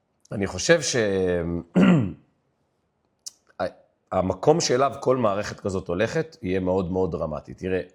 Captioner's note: clears throat